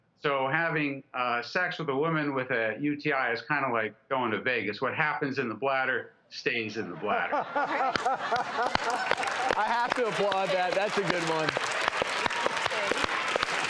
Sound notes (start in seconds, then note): 6.8 laughing; 7.8 clapping